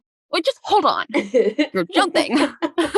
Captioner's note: laughing